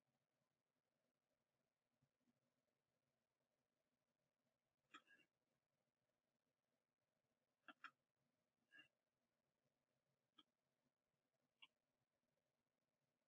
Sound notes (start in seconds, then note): 7.6 mouse clicking